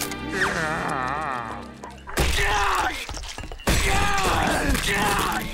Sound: groaning

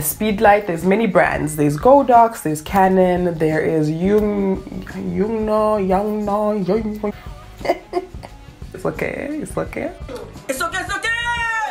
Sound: laughs

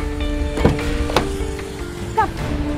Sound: car door opening

